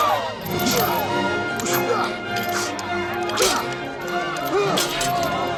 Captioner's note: crowd gasping